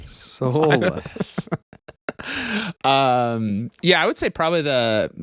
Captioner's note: laughs